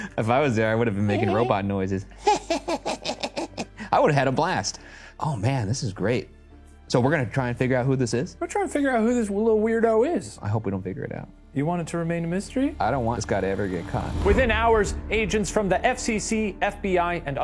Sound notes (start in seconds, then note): 2.2 snickers